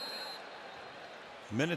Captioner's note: whistle